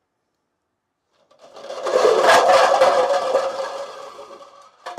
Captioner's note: clattering